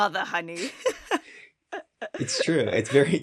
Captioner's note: both chuckles